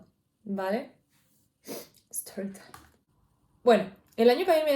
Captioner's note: sniffs